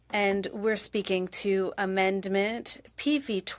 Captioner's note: speaking French